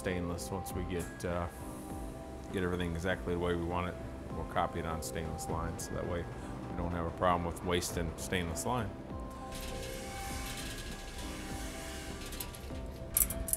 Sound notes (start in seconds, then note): 9.5 machine whirs